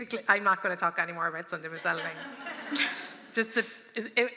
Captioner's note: laughter